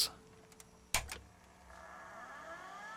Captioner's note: hard Drive booting up